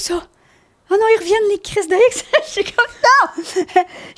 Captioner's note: in french